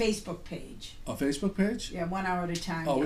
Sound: voiceover

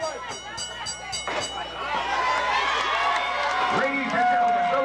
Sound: crowd cheering

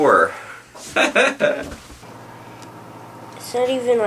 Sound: laughs

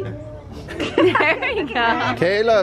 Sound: laughing

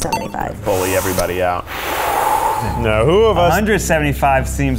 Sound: loudly breathing

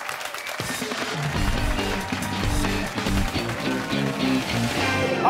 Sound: cheers and applause

